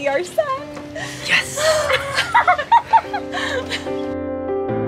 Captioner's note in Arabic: يضحكان; موسيقى لطيفة